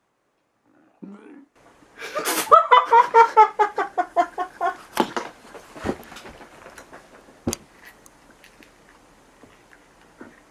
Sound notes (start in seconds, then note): 2.0 just dying from laughter ^w^'